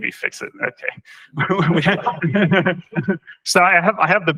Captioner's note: laughter